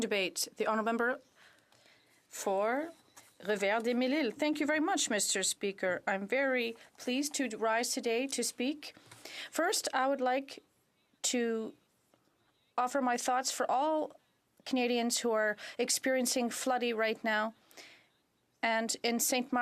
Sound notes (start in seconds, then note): 6.5 speaking in French